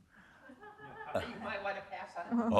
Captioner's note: woman laughing